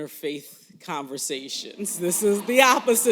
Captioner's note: laughter